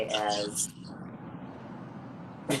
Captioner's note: laughs